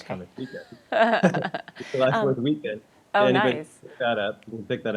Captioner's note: laughs